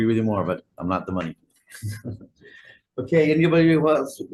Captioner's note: laughs